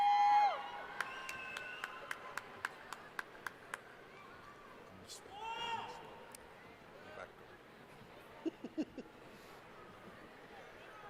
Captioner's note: cheering